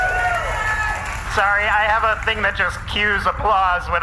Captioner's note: audience cheers